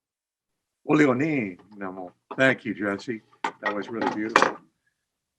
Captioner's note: speaking in Abenaki